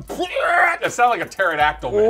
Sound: grunting

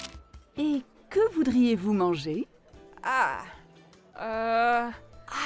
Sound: speaking in France

